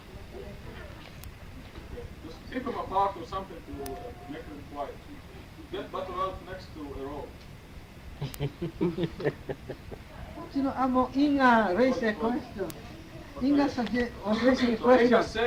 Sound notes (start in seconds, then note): 8.2 laughter; 10.3 speaking spanish